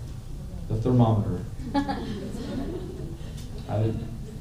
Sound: laughter

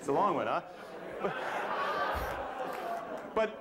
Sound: laughter

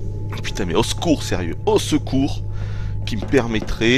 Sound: cough

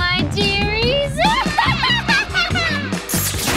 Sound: maniacal laughing

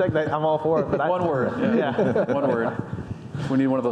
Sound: panelists laugh

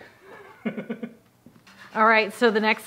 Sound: laugh

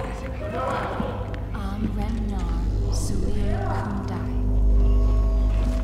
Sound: chanting in foreign language

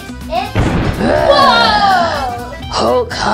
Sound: growls

